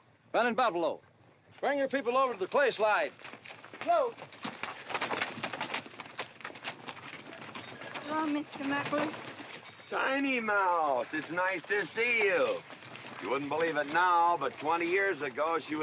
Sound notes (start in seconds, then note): 4.3 horses and bodies bustling